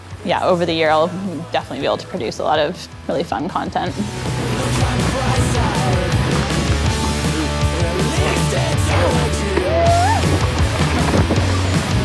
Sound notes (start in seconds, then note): 3.8 hard rock music; 4.0 wind whirling